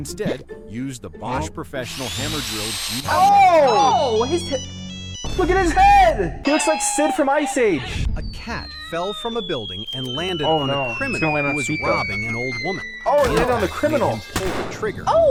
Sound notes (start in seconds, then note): 5.0 phone rings